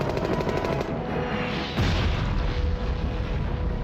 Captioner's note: rocket whooshing; explosions booming